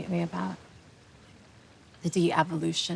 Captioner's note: none